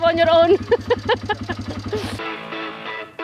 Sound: chuckled

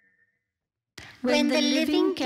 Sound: all sounds stop

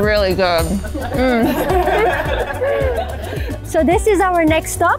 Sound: laughing

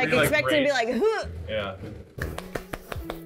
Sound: grunting; light clapping

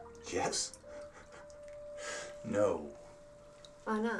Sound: laughing

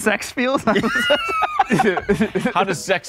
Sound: laughing

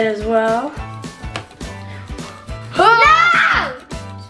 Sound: screams

